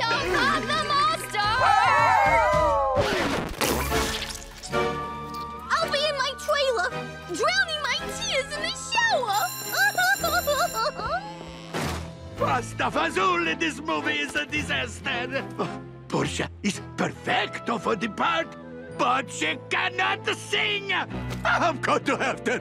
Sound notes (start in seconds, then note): 2.9 needle scratches record; 9.2 bell rings; 9.7 sobbing; 22.3 sobbing